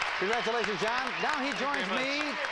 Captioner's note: audience applauding